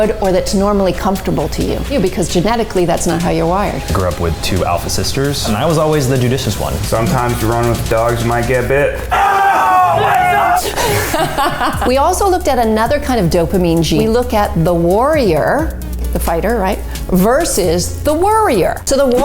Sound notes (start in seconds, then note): 9.0 laughing; 9.1 cheering